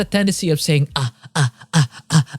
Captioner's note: nirika moaning